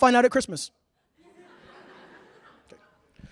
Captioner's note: laughter